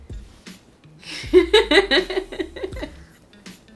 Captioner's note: laughs